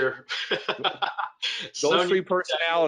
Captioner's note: laughs